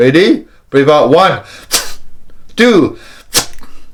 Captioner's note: deep breaths